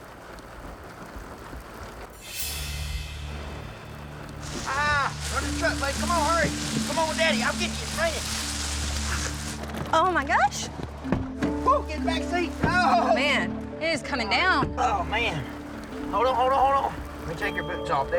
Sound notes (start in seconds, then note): 0.2 rain falling; 9.0 rain falling; 12.5 door closes